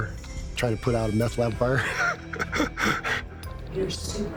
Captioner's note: laughing